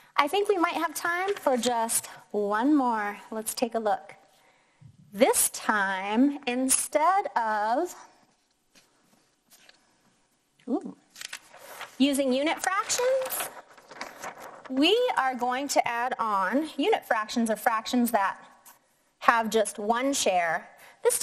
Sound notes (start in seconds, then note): 11.1 paper rustling